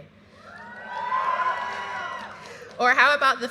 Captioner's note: graduates cheering